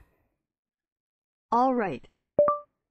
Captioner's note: automated voice